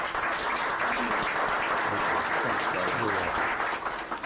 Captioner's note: applause